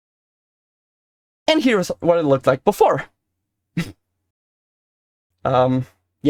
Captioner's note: pff